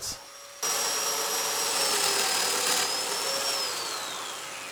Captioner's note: saw whirring